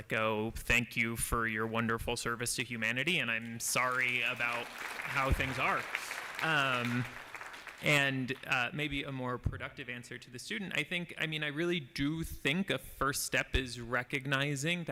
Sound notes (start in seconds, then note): 6.1 applause